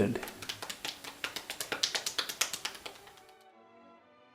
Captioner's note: hands slap